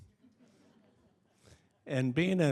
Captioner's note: audience chuckling